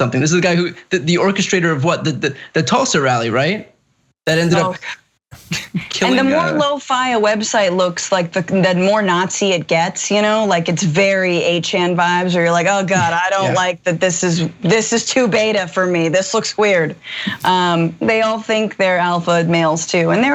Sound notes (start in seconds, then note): 5.3 laugh